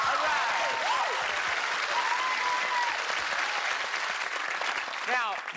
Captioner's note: cheers and applause